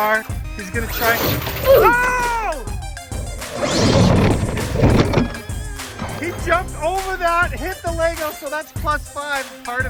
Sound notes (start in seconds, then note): 2.6 car slamming down; 3.0 car revving